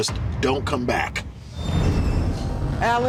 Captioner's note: scene whooshing